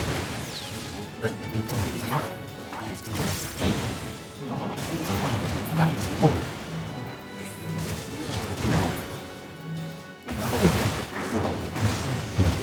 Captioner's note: humming